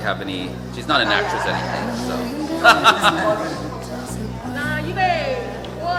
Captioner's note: laughing; speaking foreign language